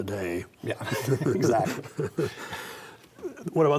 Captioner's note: both laugh